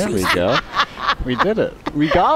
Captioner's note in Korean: 웃음